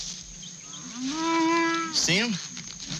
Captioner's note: cow mooing